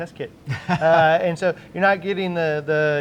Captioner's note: laughing